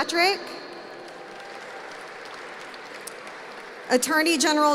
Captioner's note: applause